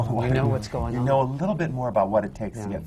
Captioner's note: laughs